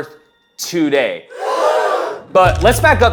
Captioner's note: audience gasps